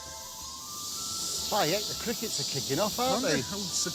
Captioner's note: crickets chirping